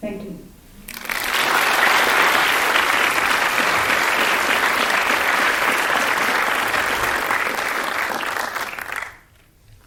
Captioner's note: clapping